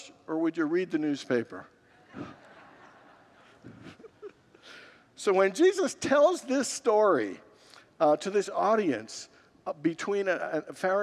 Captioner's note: congregants laugh